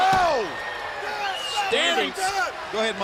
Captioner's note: crowd chatter